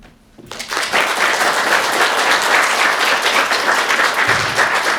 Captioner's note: audience clapping